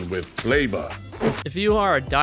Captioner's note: ball slurp